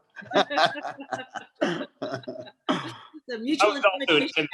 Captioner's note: group laughs